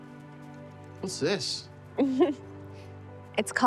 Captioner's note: chuckling